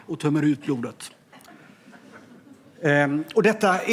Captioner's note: laughter